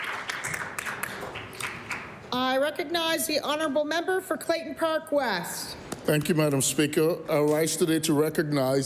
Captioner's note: applause